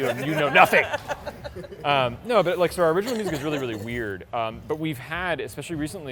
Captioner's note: laughs